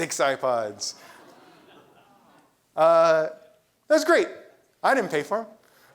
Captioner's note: laugh